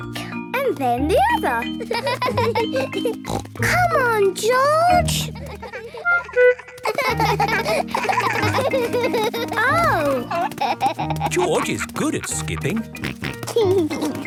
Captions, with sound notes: - And then the other. (laughs) (snort) - Come on, George! Oh! - George is good at skipping! (snort)